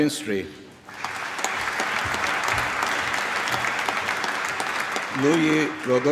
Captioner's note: applause